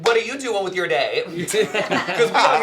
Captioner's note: laughter